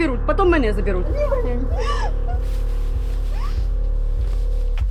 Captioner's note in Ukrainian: плач